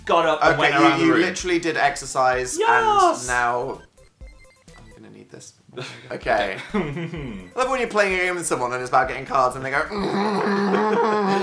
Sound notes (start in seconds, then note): 2.8 falsetto; 4.0 quietly; 6.3 laughs again; 6.4 laughs; 9.8 laughing; 9.9 mimics Phil's laugh